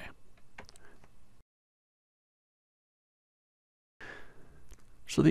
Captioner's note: silence